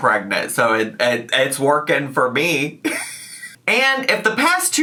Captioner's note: chuckles